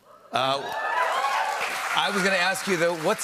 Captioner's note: cheers and applause